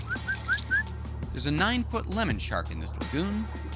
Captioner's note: whistling